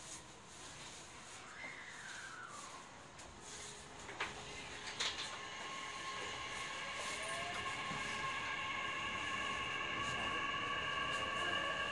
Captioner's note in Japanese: 加速音